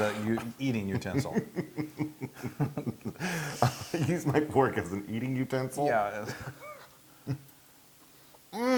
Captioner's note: laugh